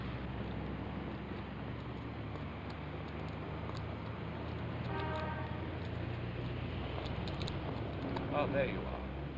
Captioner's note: footsteps